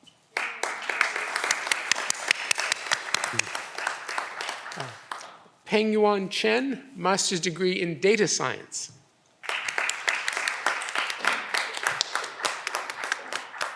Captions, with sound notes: (audience applause) Pengyuan Chen, Master's degree in Data Science. (audience applause)